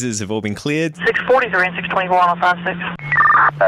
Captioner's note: radio breaks in